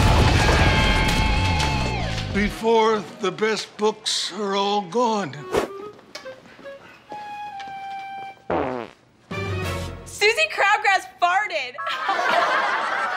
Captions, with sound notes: before the best books are all gone. [farting] Susie Crabgrass farted. [laughing]